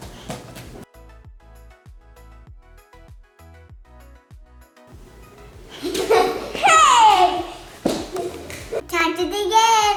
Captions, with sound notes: (laughing) - Hey! - Time to dig in.